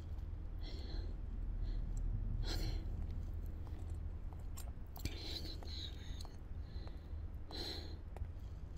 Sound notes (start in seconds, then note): 3.0 footsteps pattering